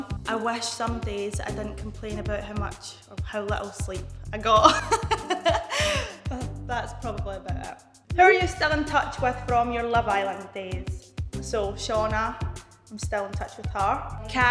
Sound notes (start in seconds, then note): 4.6 laughing